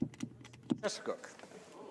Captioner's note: speaking French